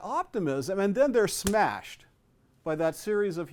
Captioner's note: claps